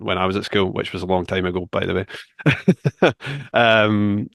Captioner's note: laughs